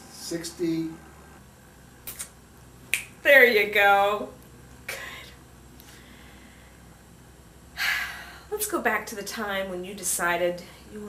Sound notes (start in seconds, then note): 2.9 snap; 7.8 sigh